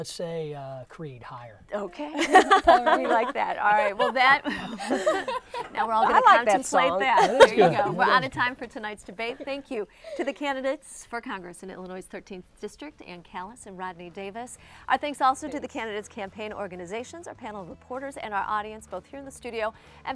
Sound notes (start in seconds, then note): 2.0 laughing